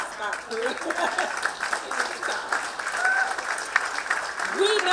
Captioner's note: applause